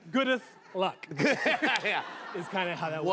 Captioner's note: laughter